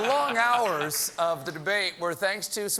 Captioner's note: laughter